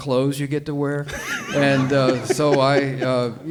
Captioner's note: all laughing